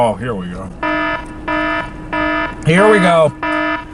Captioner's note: alarm beeping